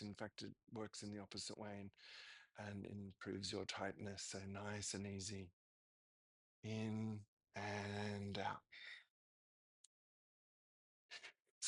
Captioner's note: breathing